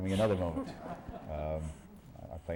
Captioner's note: laughter